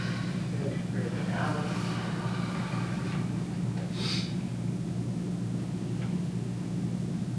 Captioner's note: audience inhaling; audience exhaling